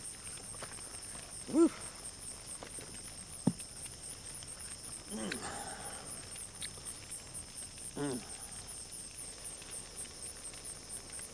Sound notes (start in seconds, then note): 1.8 fire crackling; 2.7 cicadas chirping